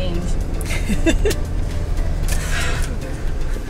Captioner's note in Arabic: تضحك; تتنهد